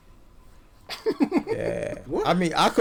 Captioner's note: laughs